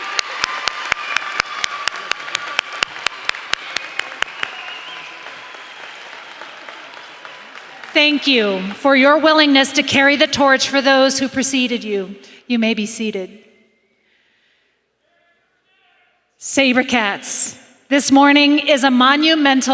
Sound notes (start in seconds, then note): 1.6 applause